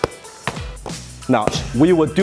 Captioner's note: gloves hitting hands